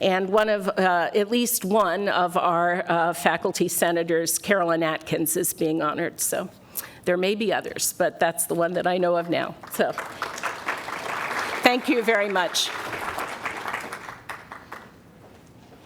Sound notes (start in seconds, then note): 9.6 applause; 13.2 applause continues